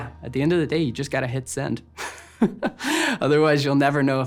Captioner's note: laughs